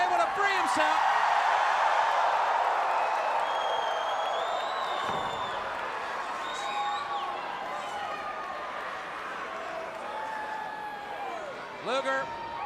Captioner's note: crowd chatter